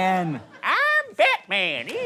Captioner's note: silly clown voice